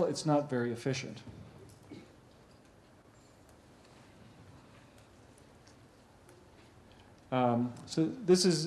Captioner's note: pause